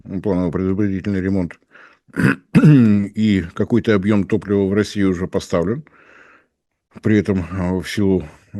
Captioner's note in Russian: откашливается